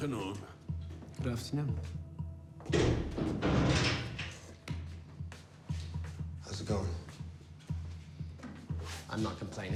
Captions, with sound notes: - Good afternoon. (door closes and locks) (suspenseful music) - How's it going? - I'm not complaining.